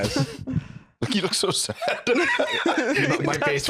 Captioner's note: laughing